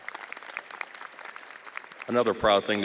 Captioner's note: audience applauding